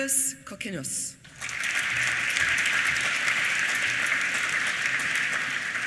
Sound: applause

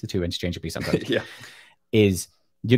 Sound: laughs

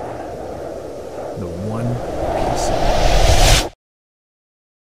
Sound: voice fades out; silence

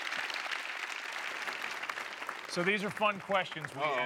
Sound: applause

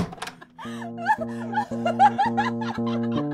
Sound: laughter

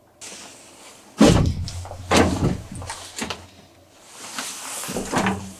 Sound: shuffles loudly

